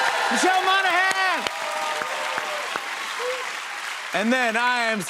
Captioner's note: cheers and applause